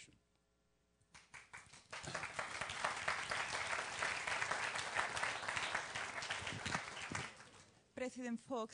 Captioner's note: applause